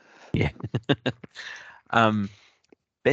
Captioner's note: he chuckles